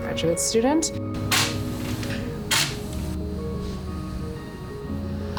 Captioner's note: camera shutters